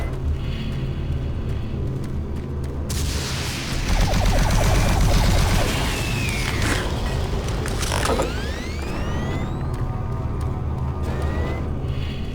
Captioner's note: beeping